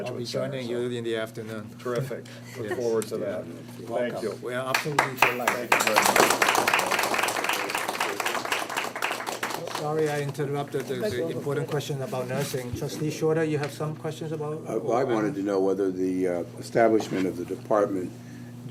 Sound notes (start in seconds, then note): 4.7 applaud